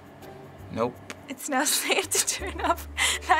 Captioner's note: giggling